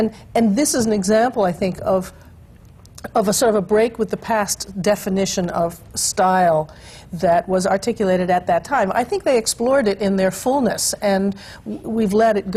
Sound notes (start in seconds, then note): none